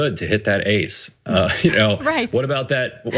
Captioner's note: laugh